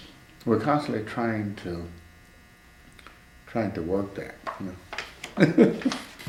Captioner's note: laughs